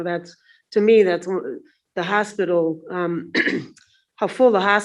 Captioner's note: clears throat